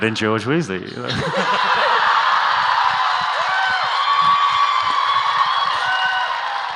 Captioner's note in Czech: Potlesk